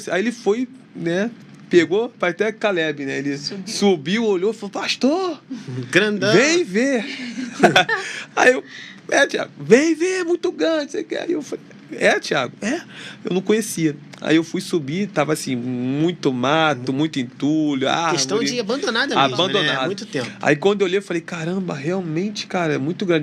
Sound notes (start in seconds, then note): 7.0 risadas